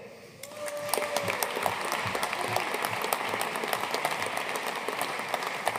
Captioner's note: audience cheering and applauding